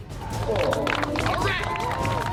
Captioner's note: audience applauding and cheering